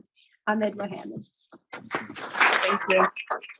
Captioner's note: audience applauding